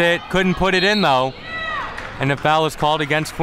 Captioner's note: whistle blows